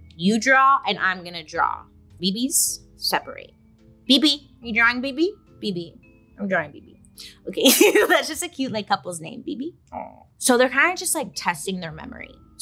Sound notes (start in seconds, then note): 7.7 laughs